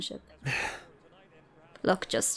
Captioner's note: sighs